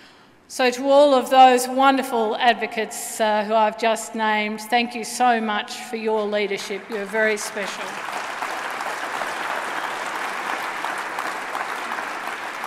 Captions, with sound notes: To all of those wonderful advocates who I have just named, thank you so much for your leadership, you are very special. [applause]